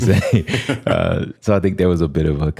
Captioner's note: laughter